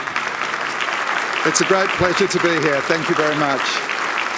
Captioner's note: applause